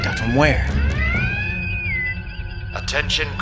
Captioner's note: bosun whistle